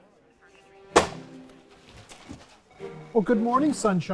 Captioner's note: folder slams